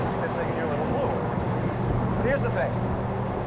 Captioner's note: none